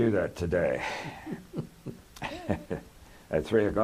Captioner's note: laughter